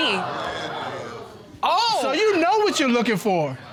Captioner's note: audience exclaiming